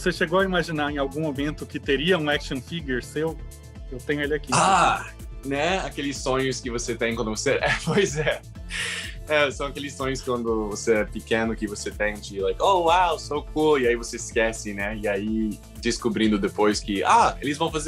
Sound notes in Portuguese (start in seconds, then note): 7.6 risos